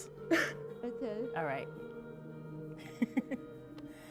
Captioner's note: chuckles